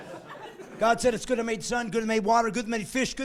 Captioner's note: laughing